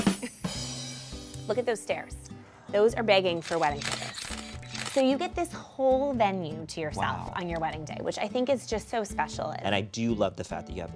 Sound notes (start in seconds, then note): 0.1 chuckles; 0.4 drum sting hisses; 3.3 camera shutters clicking